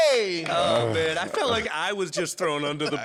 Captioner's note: clapping